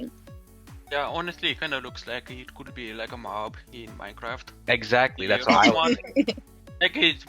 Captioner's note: laughs